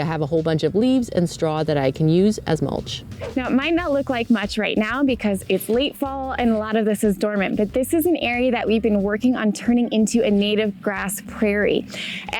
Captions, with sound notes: I have a whole bunch of leaves and straw that I can use as mulch. (air whooshing) - Now, it might not look like much right now because it's late fall and a lot of this is dormant, but this is an area that we've been working on turning into a native grass prairie.